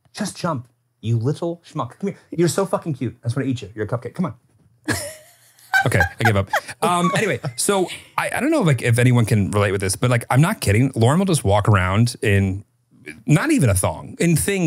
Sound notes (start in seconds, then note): 4.8 laughing